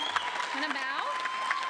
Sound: applause

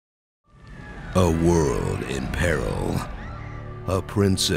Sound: people scream

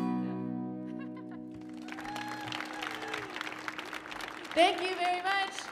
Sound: audience applauding; audience cheering

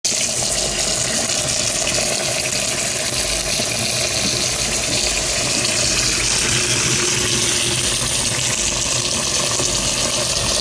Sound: water running

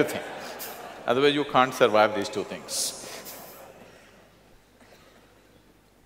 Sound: laughs

